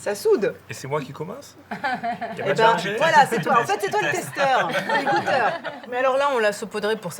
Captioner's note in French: rires